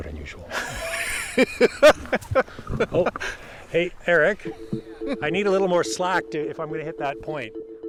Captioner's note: laughs